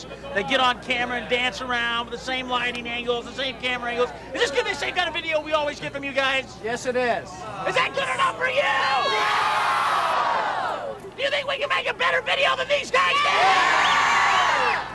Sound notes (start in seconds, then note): 8.4 crowd groans; 9.1 crowd; 13.5 crowd